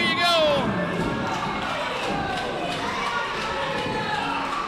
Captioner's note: crowd cheering